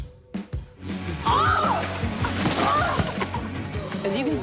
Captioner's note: yelling